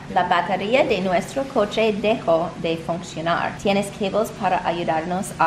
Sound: speaking in foreign language

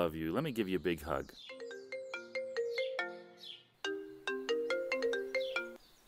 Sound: cell phone ringing

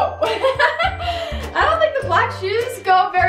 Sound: laughing

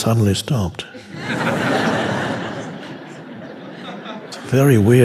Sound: audience laughing

